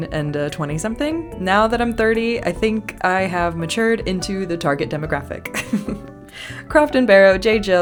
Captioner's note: laugh